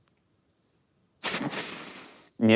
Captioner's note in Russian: смеется